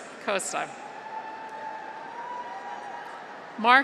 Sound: graduates cheer

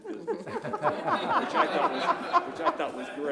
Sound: laughter

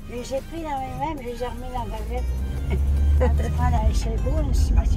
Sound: laughs

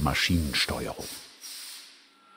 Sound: hiss

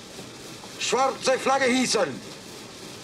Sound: in German

